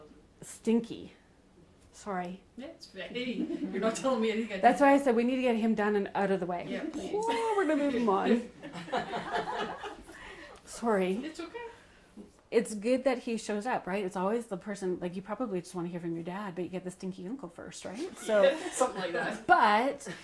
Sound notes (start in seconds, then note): 10.3 laughter; 19.8 laughs